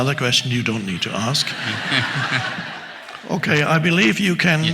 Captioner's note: audience laughs